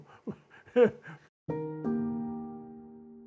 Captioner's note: laughs